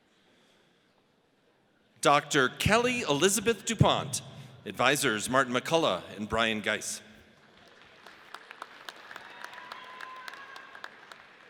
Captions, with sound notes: Dr. Kelly Elizabeth Dupont. Advisors, Martin McCullagh and Bryan Geiss. (audience applauds)